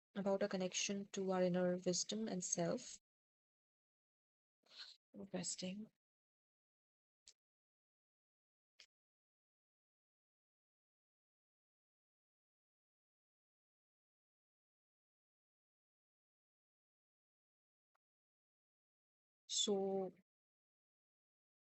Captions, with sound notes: About our connection to our inner wisdom and self *Awkward pause*